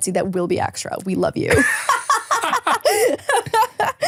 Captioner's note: laughs